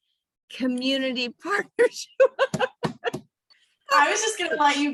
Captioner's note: laughing